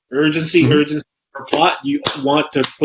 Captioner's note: claps